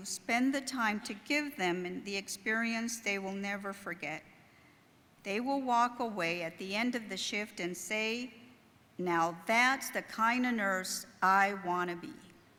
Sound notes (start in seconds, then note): none